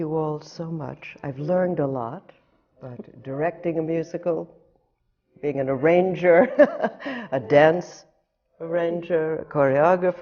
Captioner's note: laughs